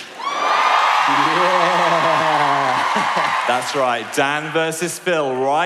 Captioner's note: cheering